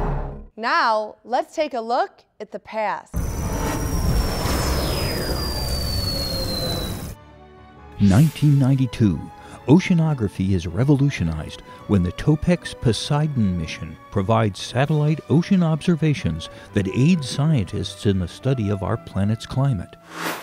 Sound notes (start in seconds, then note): 0.0 sound Effects; 3.1 sound Effects